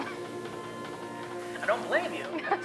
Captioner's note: laughs